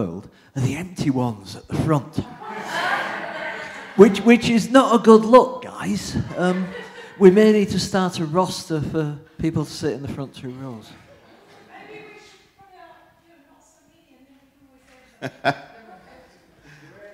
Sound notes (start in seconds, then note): 2.8 laughter